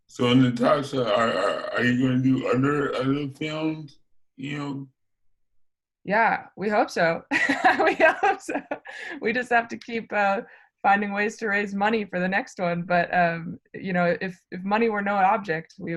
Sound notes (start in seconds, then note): 7.4 laughs